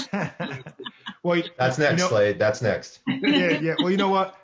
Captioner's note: laughs; laughs